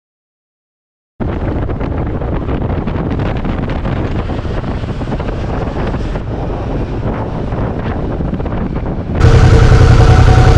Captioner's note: motorbike noise